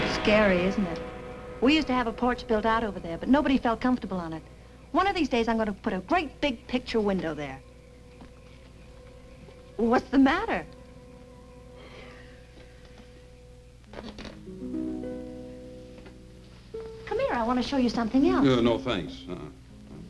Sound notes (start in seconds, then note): 12.1 Edward sighs